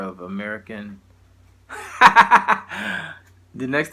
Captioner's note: laughing loudly